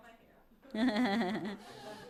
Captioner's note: laughter